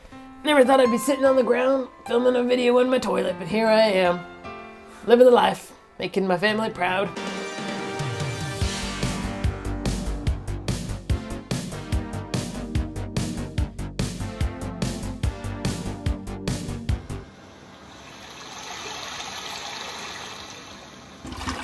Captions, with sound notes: Never thought I'd be sitting on the ground, filming a video in my toilet, but here I am Living the life, making my family proud [funky dance music] [toilet flushing sound]